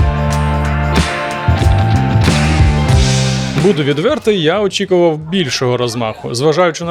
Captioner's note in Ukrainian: оплески